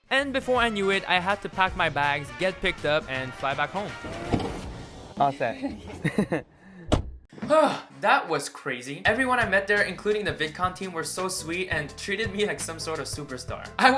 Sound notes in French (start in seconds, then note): 4.0 Porte fermée; 5.9 Rire